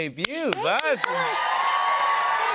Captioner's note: cheers and applause